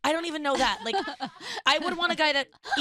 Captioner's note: laughing